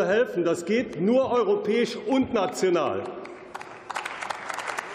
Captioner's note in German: Beifall